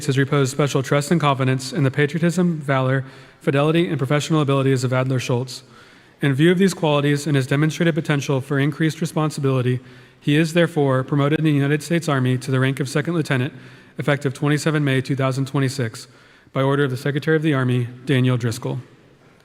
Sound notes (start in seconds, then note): none